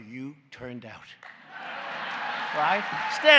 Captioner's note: laughter and applause